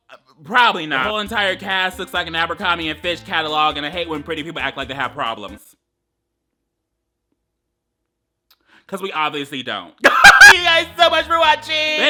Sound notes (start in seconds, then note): 10.0 laughs